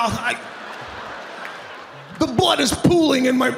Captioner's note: audience laughing